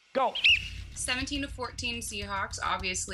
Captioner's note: whistle blows